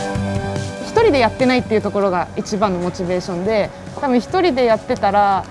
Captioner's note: speaking in foreign language